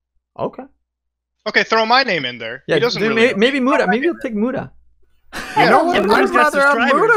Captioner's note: laughs